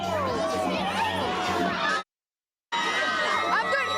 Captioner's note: crowd yelling